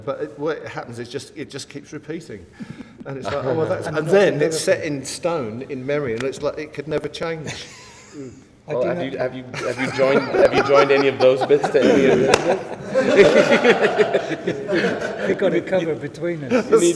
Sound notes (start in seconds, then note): 12.0 laughter